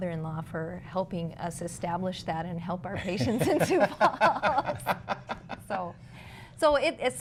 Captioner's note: laughter